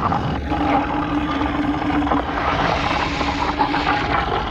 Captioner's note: growling